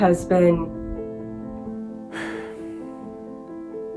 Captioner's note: sigh